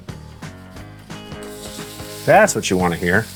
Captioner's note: sizzling